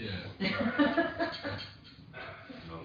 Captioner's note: laughter